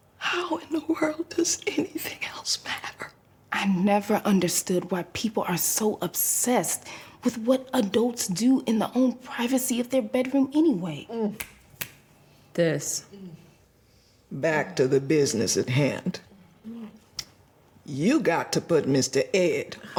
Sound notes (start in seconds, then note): 11.4 sade snapping fingers